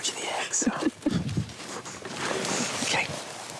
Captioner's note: laugh